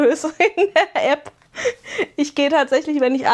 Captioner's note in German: gelächter